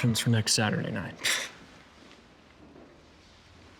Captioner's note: scoffs